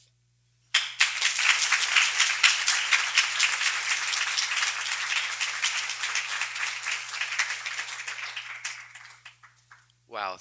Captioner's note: applause